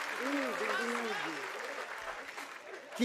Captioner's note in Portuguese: aplausos